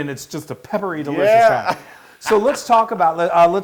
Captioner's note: laugh